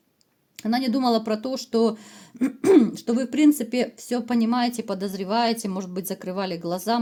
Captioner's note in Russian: откашливается